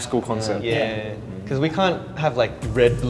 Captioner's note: speaks in Korean